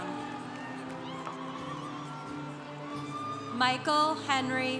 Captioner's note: congregation cheering